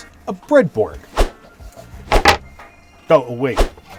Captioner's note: whoosh